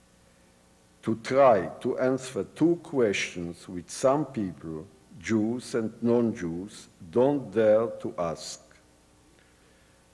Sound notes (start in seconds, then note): none